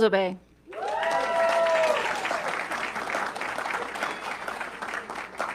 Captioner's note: audience clapping